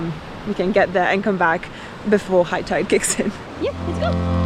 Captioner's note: laughs